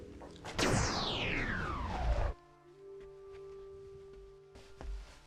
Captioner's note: electronic whirring